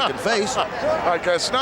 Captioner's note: Monsoon laughs